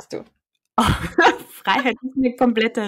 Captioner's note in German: lachen